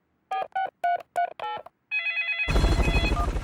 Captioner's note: dialing; phone ringing